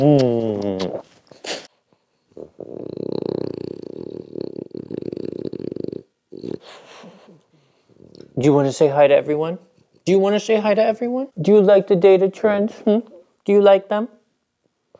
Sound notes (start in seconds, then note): 0.0 smooches loudly; 2.4 dog growling loudly